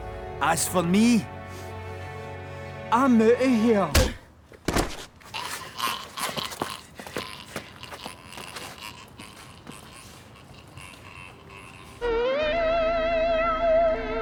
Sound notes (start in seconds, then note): 5.2 choking; 12.0 eerie music playing